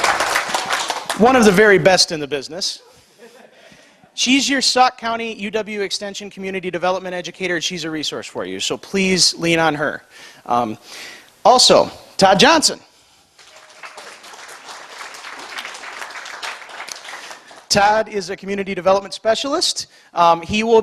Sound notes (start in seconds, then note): 13.3 applause